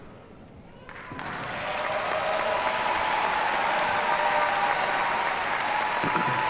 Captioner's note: audience cheers and applauds